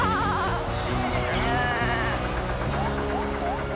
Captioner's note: animals Chattering